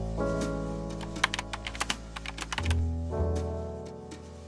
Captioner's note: gentle piano music; keyboard clacking